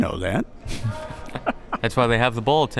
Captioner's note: both laughs